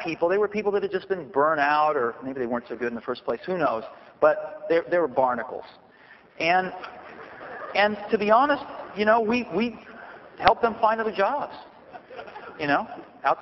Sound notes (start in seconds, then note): 6.8 soft laughter